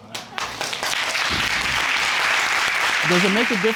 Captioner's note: all applauding